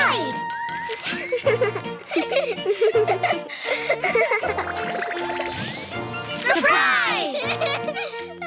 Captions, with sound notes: Hide. (lively music) (laughing) Surprise.